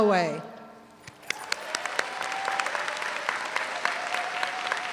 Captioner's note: all applaud